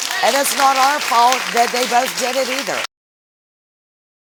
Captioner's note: audience applauding